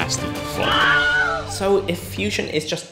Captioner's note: scream